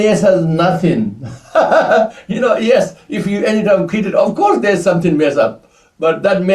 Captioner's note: laughs